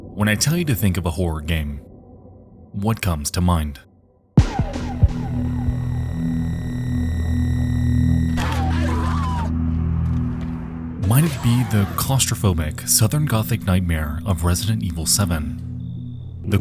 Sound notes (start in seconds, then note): 4.7 characters exclaiming; 4.7 unsettling music